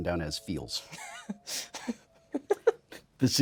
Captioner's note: Blu laughing